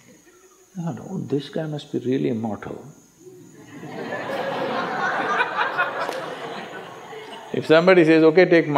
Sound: laughter

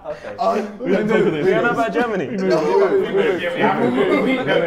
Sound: Sidemen chatting

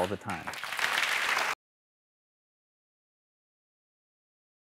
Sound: applause

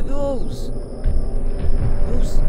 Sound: sirens and Rumbling

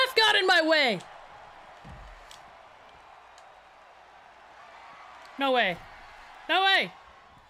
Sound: applause

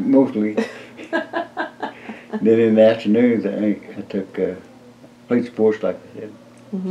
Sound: laughter

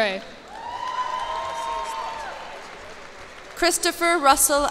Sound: cheers and applause

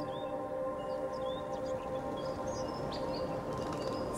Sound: birds chirping

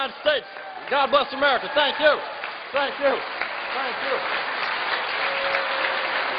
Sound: applause

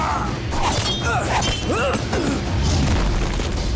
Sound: groaning

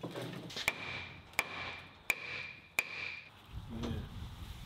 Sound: hammer thudding

